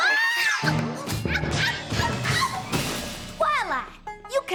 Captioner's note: clang! crash! clang! thud!